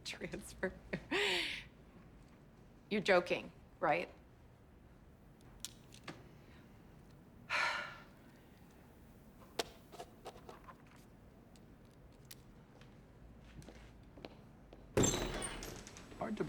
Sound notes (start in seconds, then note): 7.5 sighs; 7.5 pen scratching page; 13.4 door creaks open